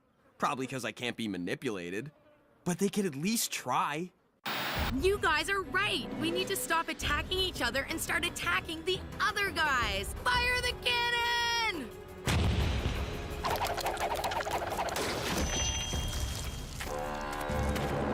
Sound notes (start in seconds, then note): 12.1 cannon Blasting; 15.2 mic Feedback